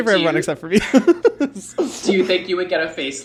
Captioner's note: laughs